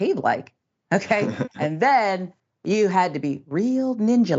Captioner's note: laugh